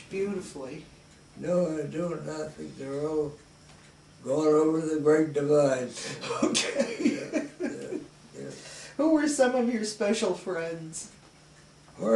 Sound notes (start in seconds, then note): 6.1 chuckles